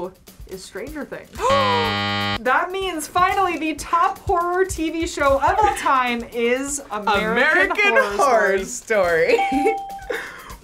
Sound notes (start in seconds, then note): 1.4 gasps; 1.5 buzzer; 9.3 giggles